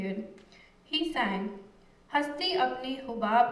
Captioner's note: non-english speech